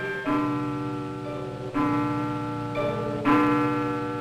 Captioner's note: clock dings